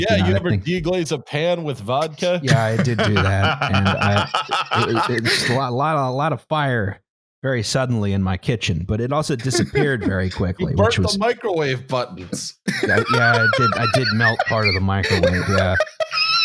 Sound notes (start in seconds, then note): 2.0 laughs; 12.6 laughs with fervour